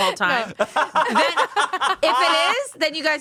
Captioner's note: everyone laughs